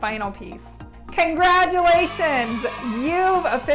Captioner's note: crowd cheers